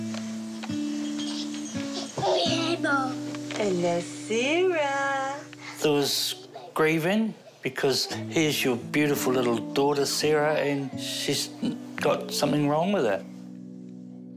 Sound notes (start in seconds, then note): 2.1 laughs